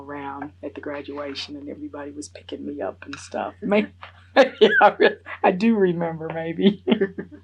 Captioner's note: laughs